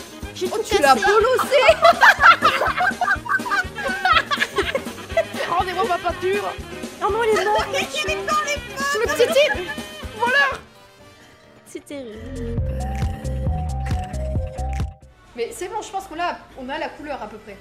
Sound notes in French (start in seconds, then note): 1.0 rires; 10.0 rire